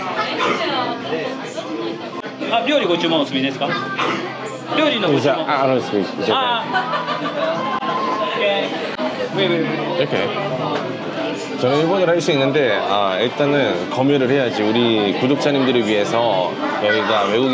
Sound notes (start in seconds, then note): 2.1 in a trembling voice